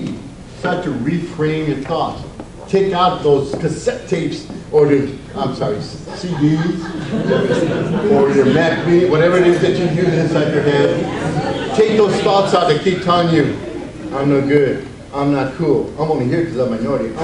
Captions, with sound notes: Start to re-frame your thoughts. Take out those cassette tapes or, I'm sorry, CDs. (audience laughs) Or your, whatever it is that you use inside your head. Take those thoughts out that keep telling you, I'm no good, I'm not cool, I'm only here 'cause I'm a minority,